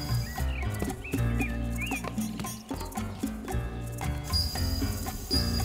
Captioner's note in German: pulsierendes Glockenspiel; Vogel zwitschert; pulsierendes Glockenspiel